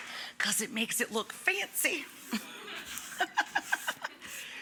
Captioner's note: giggles